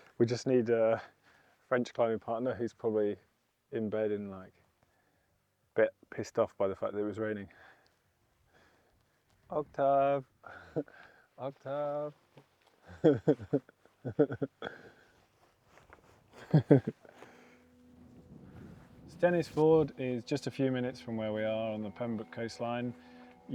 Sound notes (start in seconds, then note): 12.8 laughing